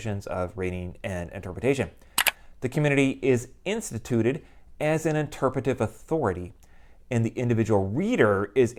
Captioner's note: mouse click